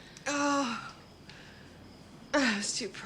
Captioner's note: Sarah sighs